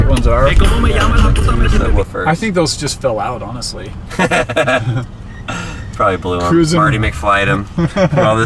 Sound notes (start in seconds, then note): 4.1 laughs